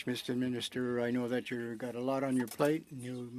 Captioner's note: speaking French